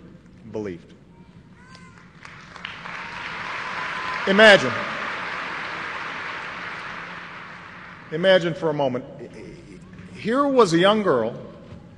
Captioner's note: applause